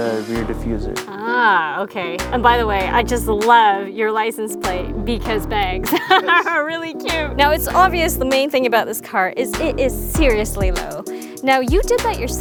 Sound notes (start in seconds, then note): 5.8 laughs